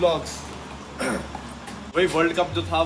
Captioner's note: clears throat